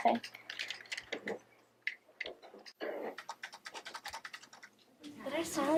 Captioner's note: keyboard typing